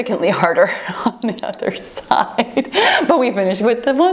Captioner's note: laughs